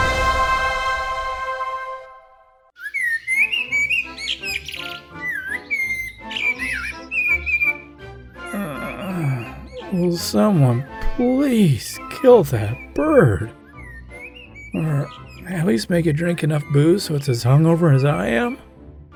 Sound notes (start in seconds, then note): 2.7 cheerful bird singing; 8.4 moans